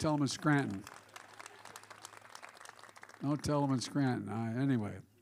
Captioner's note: applause